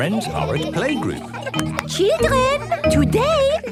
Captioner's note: clapping